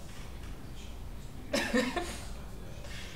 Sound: laughing

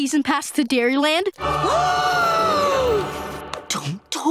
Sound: gasping

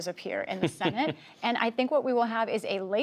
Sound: laughter

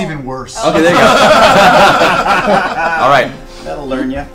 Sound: all laugh

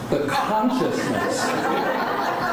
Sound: laughing

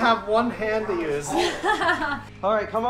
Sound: laughing

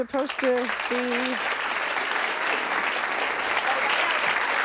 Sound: audience applauding

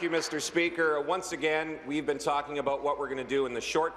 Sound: applause

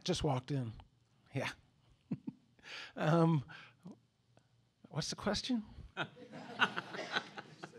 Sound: laughter

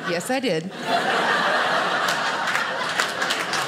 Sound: audience laughing; audience applauding

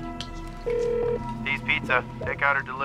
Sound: on phone

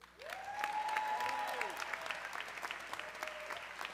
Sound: audience cheering

